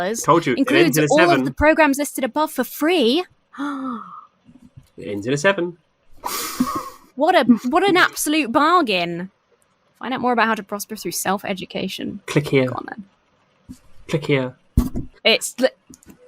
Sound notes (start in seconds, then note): 3.6 gasps; 6.3 chuckles